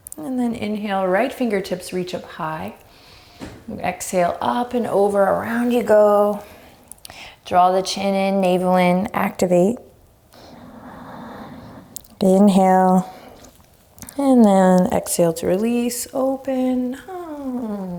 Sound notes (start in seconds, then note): 2.9 deep breaths; 7.1 deep breaths; 10.3 deep breath